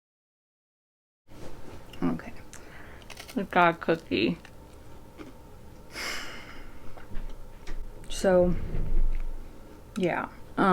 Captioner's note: sigh